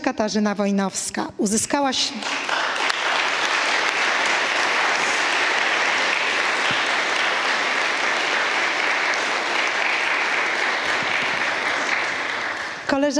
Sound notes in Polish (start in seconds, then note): 3.8 oklaski